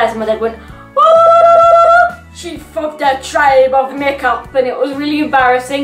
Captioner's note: does Indian war whoops